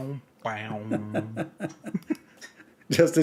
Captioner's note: Ketawa